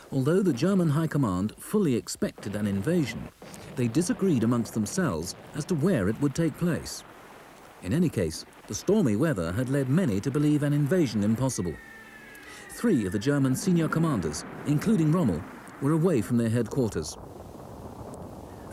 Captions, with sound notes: Although the German high command fully expected an invasion, they disagreed amongst themselves as to where it would take place. In any case, the stormy weather had led many to believe an invasion impossible. (shells whistle) Three of the German senior commanders, including Rommel, were away from their headquarters.